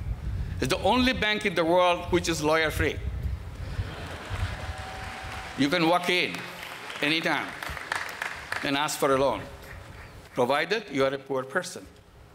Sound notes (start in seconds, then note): 3.7 applause